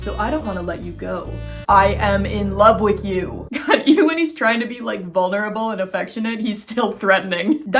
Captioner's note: stern voice; laughing